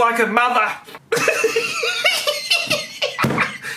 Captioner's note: laughing